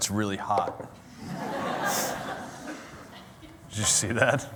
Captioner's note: laughter